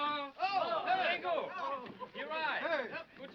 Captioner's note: men shouting